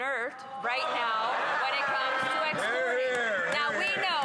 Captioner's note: some Applause; speaking French